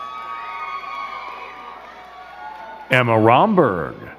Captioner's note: crowd cheering and clapping